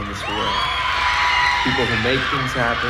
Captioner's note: audience cheering